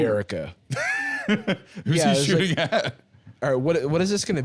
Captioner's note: laughs